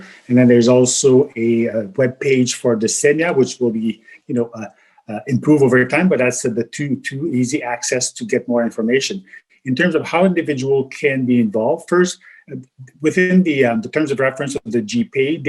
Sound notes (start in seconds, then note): 3.0 murmurs